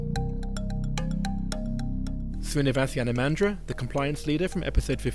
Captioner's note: voiceover